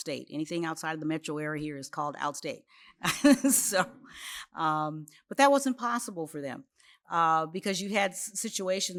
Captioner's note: laughs